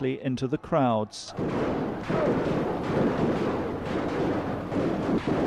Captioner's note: gunfire blasting